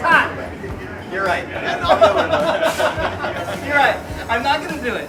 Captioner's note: laughter